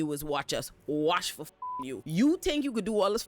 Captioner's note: beep